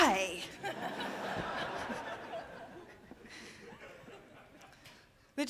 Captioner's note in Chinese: 笑聲